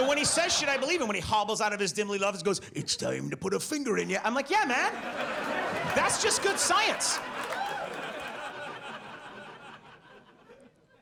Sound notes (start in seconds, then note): 0.0 audience laughs; 4.8 audience laughs